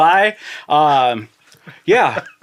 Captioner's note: laughing